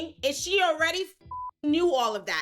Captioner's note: beep